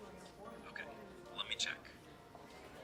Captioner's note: man over phone